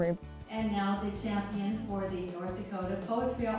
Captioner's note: voiceover